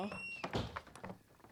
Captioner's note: door opens and closes